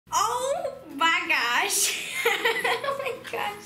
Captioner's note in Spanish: risas